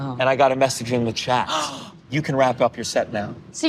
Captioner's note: gasping